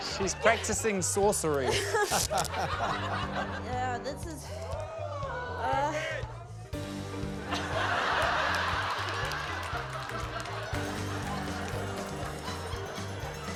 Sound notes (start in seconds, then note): 1.6 laughter; 4.8 audience exclaims; 7.4 laughter; 9.5 applause